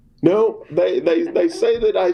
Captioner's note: laughter